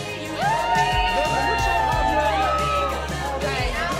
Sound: cheering

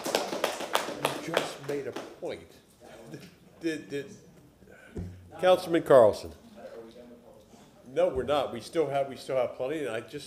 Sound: applause

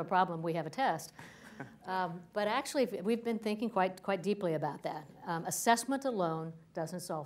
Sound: laughter

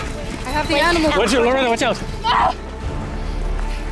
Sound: scream

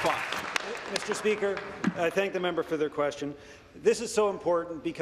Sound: applause

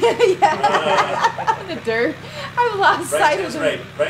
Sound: laughs

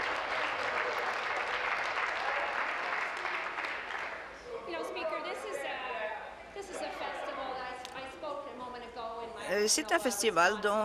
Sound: applause

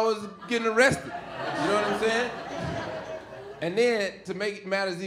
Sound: audience laughing

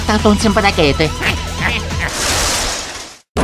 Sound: italian gibberish; more Wahahoo and Wahahee noises

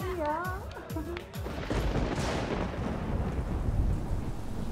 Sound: thundering

